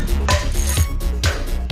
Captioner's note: cheerful clanging